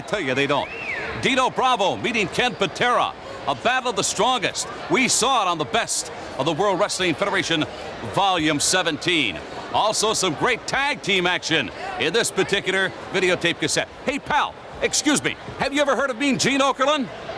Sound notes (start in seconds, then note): 4.7 commentators exclaim